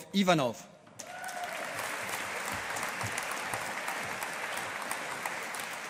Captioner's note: audience applauding